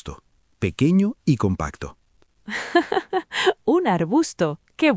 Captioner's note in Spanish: Risas